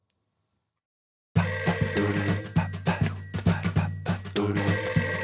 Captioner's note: phone ringing